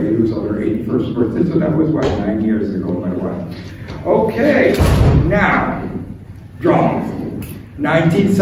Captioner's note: door slams